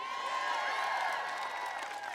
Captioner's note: applause